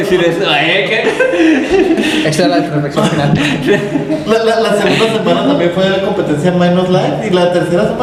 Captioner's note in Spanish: risas